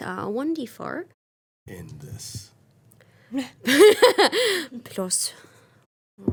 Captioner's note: Omelet laughing